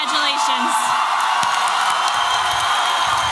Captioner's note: applause and cheering